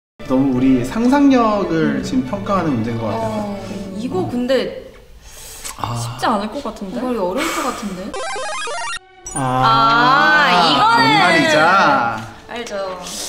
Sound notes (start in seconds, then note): 7.4 breaths in, breathes out